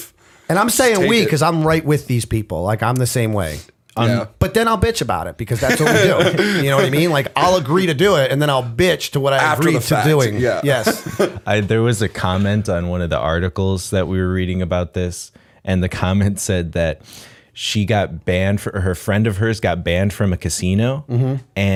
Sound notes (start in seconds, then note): 5.6 laughter; 10.7 laughter